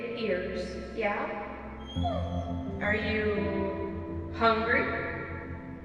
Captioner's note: whining